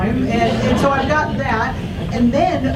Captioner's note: audience laughs